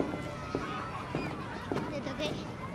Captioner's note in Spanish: Bullicio